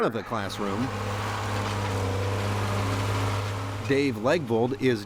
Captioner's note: sound of motor